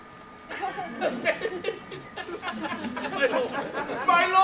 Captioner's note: Leonato laughs